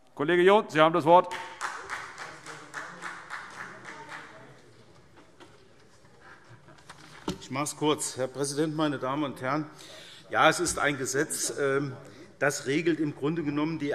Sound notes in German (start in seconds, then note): 3.6 Vereinzelter Beifall SPD